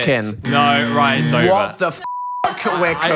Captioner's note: beep